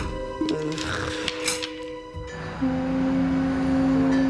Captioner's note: scoffs; boat horn honks